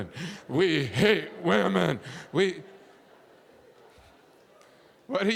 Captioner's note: audience laughing